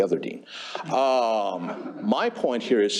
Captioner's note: laughter